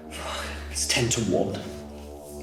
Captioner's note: man sighs